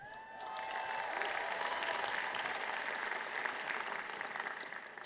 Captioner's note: cheers and Applause